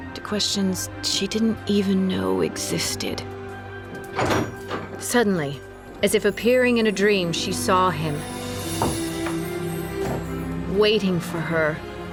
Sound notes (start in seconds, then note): 4.1 door opens